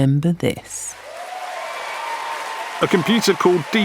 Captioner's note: crowd cheering